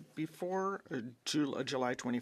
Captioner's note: speaking French